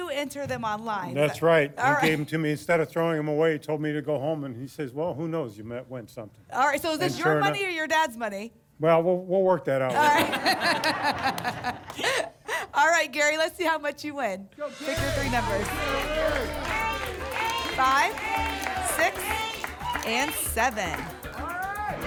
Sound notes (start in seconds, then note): 9.9 laughter; 16.3 audience shouting numbers